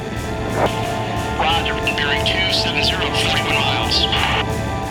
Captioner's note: voiceover